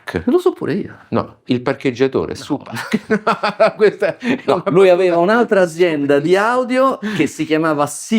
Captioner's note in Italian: risate